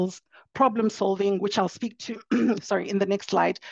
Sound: clears throat

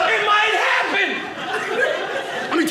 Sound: audience laughing

